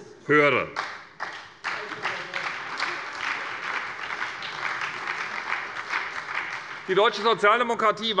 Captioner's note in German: Beifall bei der SPD